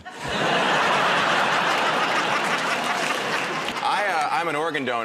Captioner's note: laughter